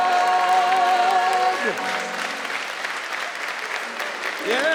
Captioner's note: audience applauding